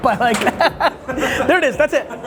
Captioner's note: laughing